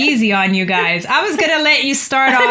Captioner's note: laughter